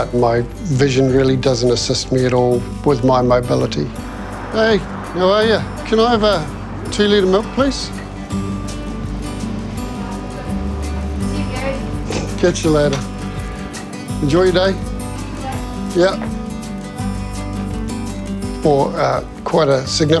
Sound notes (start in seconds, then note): none